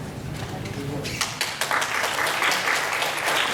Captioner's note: applause